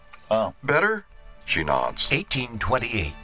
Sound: Spoken Cherokee

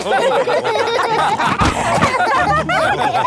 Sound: all laughing

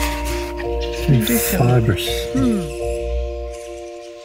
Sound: hmmm

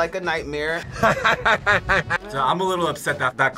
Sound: laughs strangely

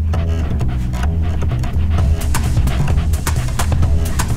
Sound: upbeat jazz music; dog panting

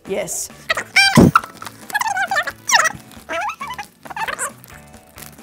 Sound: voice being fast forwarded; paper crinkles

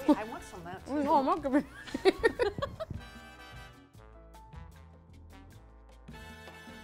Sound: laughs

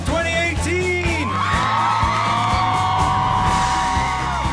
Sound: students cheering

